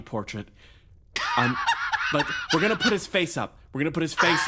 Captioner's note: laugh